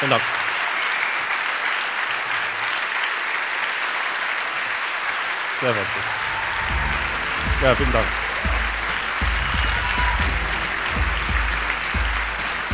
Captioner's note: applause